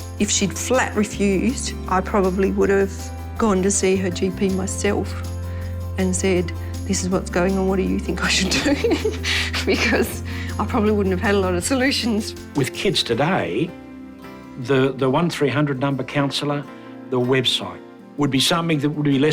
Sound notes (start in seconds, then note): 8.6 chuckle